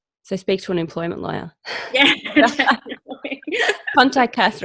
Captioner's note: both laughing